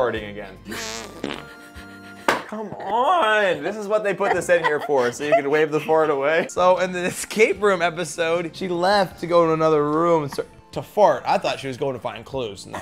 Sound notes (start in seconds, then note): 0.7 farting; 2.2 hand slapping